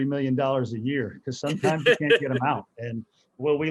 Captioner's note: laughs